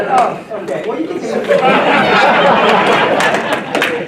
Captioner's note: laughter